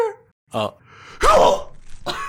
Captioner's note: NPC chokes and dies; snickering